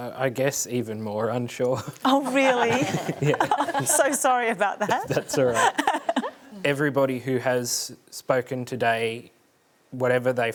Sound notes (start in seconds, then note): 2.1 laughs